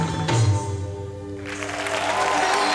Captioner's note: cheers and applause